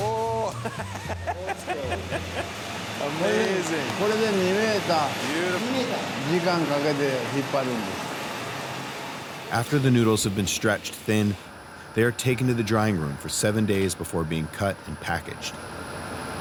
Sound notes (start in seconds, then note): 0.1 laughs; 4.2 speaking Japanese; 7.4 speaking Japanese